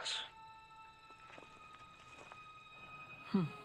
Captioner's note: footsteps crunching